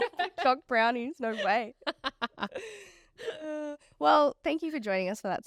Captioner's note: all laughing